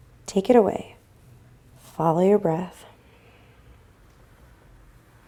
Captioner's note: breathing